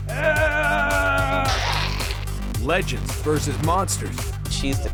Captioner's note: deep voice